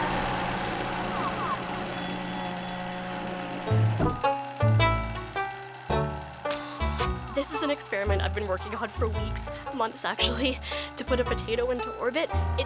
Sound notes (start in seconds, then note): 1.8 bell ding